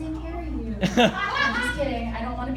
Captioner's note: laughter